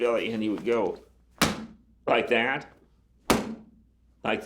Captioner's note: thudding; thudding